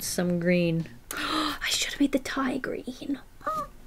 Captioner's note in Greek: κοφτή ανάσα